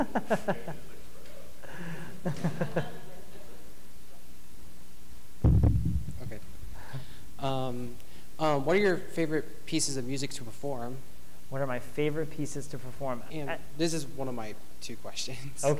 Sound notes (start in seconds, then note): 7.2 bright Voice; 13.5 bright Voice